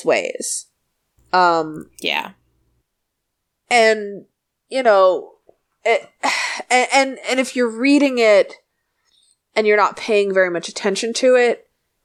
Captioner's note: sighs